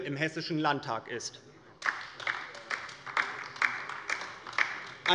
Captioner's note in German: Beifall bei der LINKEN